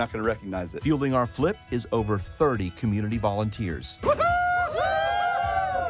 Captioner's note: cheering